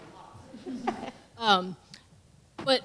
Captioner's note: laughter